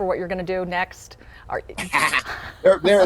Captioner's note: group laughing